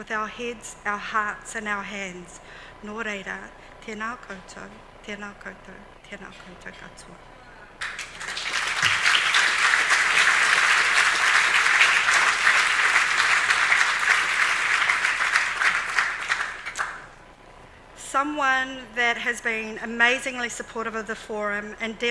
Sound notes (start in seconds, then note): 8.0 audience clapping